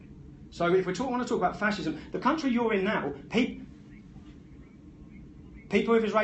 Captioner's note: host talking